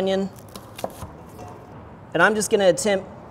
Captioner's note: knife slashes